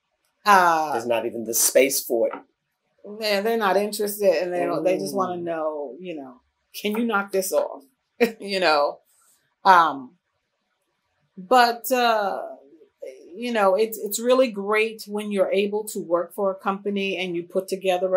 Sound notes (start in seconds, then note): 8.1 laughs